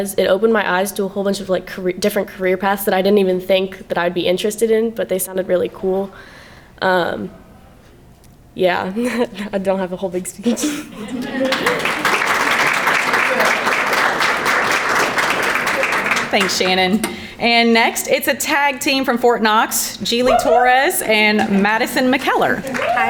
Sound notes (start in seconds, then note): 10.1 background chattering; 10.4 laughs; 11.0 crowd clapping